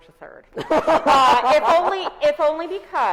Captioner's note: both laughs